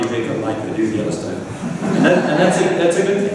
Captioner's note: laughter